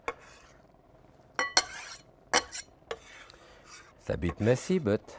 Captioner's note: knife tapping